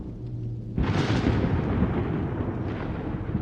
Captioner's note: thunder noise